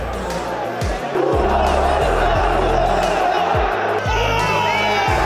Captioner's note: booing continues